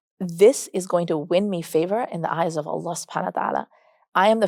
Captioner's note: speaks Arabic